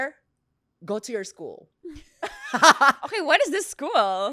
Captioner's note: laughs